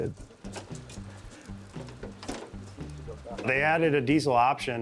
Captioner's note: men chuckling